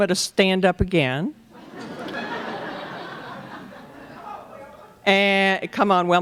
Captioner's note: laughter